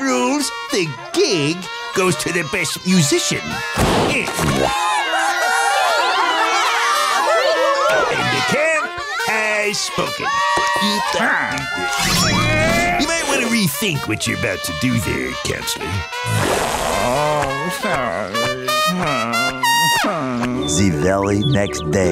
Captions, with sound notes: the gig goes to the best musician. [cheering] And the camp has spoken. [grunting] You might want to rethink what you're about to do there, Counselor. [grumbling]